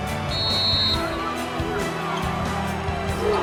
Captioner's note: whistle